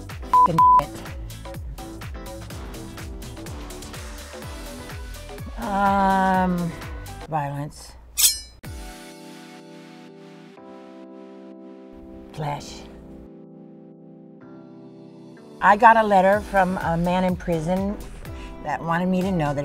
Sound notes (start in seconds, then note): 0.3 beeping; 8.2 knife slicing